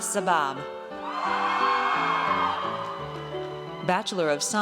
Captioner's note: audience cheers